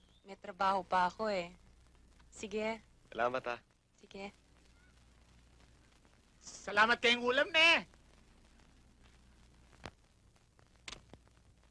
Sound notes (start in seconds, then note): 6.8 speaking in native language